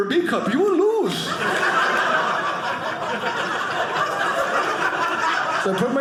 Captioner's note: audience laughing